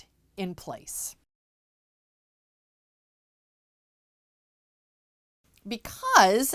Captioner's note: no Sound Present